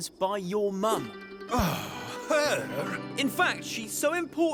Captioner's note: sighs